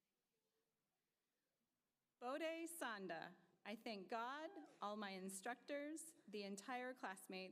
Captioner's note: applause